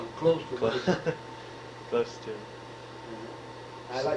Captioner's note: laughs